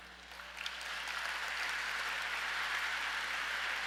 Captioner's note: audience applauds